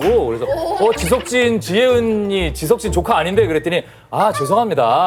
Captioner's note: hahaha